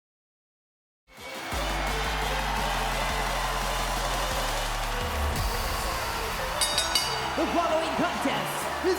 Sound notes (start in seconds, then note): 1.1 crowd cheering; 1.2 upbeat synth music; 1.2 crowd cheering; 1.2 upbeat synth music; 6.6 bell dinging